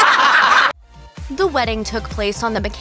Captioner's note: laughs